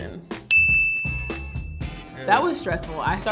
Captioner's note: dings